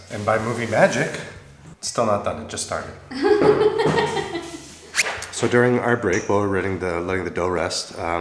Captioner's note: laughing